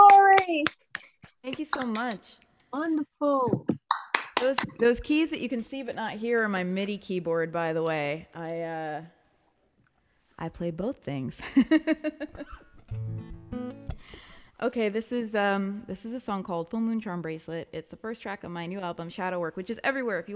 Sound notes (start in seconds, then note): 12.6 laughs